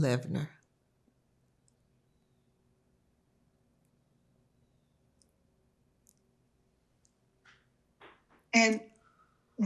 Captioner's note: pause 7 seconds